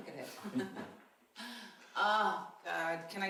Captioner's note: laughing